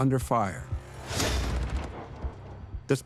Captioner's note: gunshot